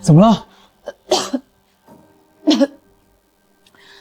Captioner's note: cough, cough